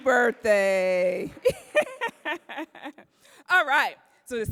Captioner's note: laughing